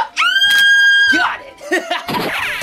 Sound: screams

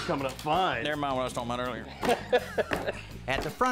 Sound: laughs

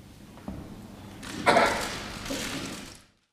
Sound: cough

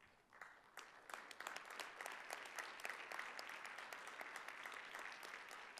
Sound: audience applauding

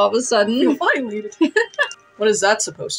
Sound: laugh

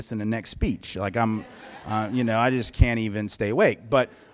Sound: laughter

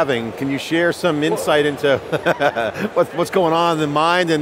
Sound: laughs

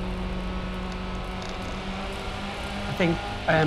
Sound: machine buzzing

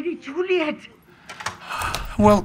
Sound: door opening

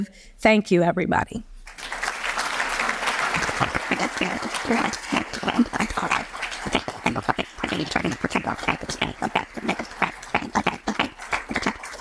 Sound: applause

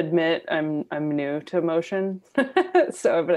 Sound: laughs

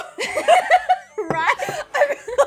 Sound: laughing

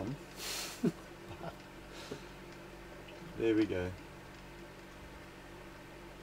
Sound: laughs

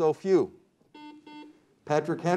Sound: buzzer beeps

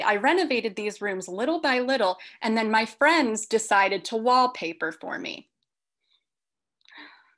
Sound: sigh

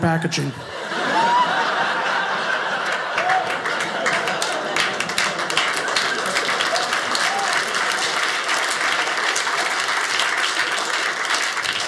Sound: audience applauding

